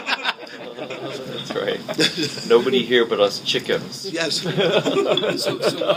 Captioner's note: laughing